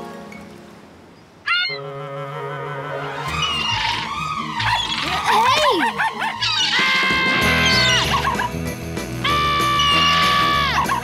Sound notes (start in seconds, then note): 1.1 squawking; 6.1 screaming, barking